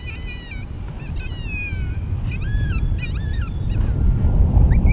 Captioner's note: wind rumbling